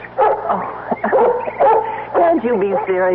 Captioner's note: dog barking